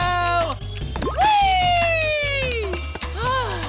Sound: sighing

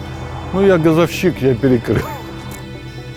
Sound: laughs

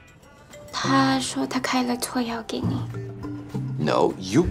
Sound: Mandarin

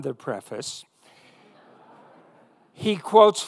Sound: audience laughing

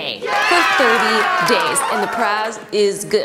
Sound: crowd cheering

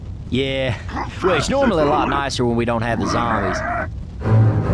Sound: unsusal zombie sounds

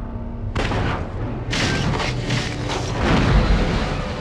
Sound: digitized landslide sounds

